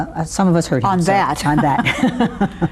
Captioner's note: laughs